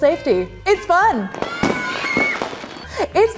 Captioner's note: cheering and confetti popping